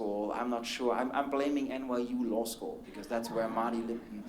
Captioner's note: laughter